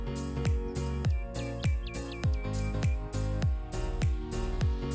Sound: birds chirping musically

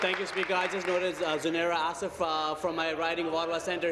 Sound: applause

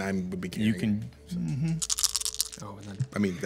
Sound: dice rolling

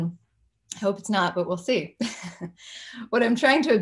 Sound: chuckles

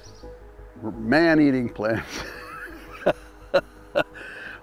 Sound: laughs

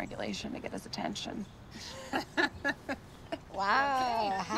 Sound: laughs

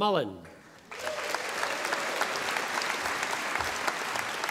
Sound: audience applauding

